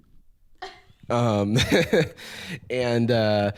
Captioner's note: laughs